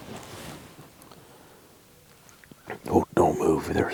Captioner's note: clothes rustling